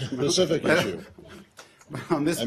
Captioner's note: laughter